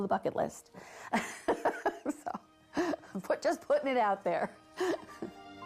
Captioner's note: laughing